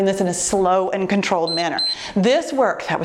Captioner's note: timer beeps